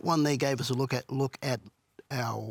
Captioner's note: none